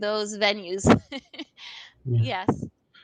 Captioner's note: laughs